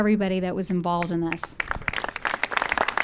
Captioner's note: applause